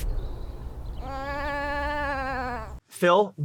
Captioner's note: sheep bleats